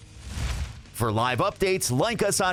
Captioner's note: whoosh